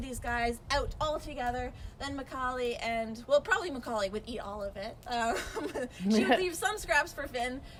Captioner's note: laughing